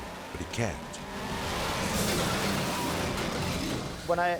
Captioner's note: car crashing